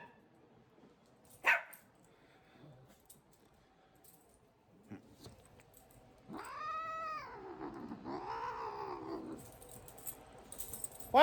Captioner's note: Ella barks and Caprice growls